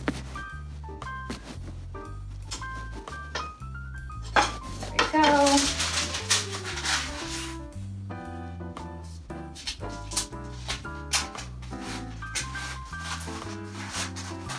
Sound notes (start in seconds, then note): 0.1 festive jazz music; 6.6 parchment paper crinkling